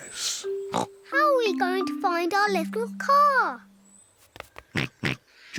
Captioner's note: snorts; snorts